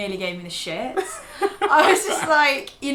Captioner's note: laughing